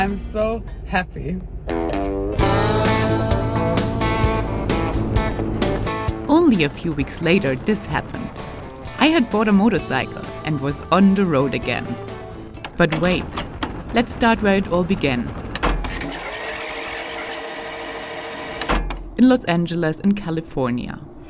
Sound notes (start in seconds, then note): 2.3 upbeat music; 15.2 film whirring